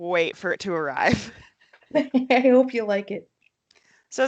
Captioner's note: laughs